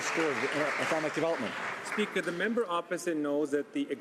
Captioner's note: some Applause